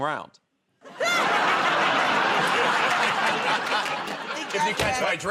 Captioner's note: laughter